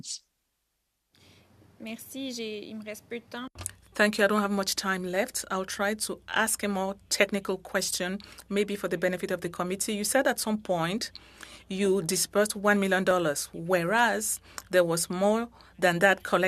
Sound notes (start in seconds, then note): 8.7 speaking French